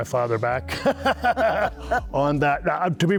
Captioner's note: laughing